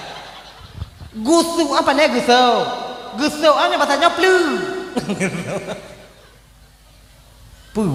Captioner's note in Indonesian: tertawa